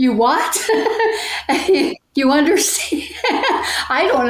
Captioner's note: laughing